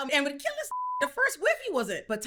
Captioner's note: beep